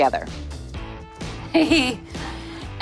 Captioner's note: chuckles